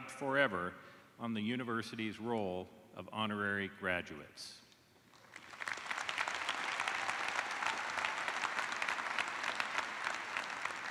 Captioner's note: applause